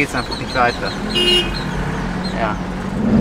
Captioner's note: honk